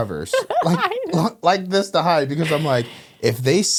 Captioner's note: laughing